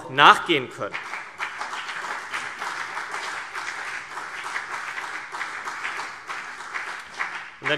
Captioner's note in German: Beifall CDU und BÜNDNIS 90/DIE GRÜNEN